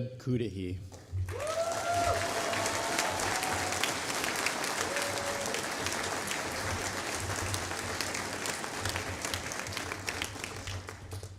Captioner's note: applause